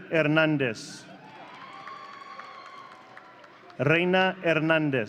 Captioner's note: audience cheering